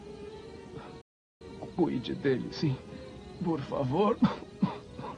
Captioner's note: coughs